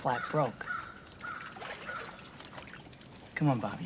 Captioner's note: water splashing